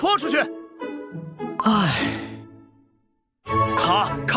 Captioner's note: sigh